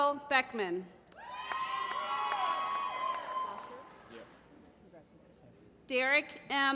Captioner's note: applause